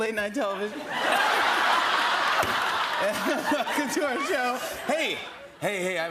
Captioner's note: laughter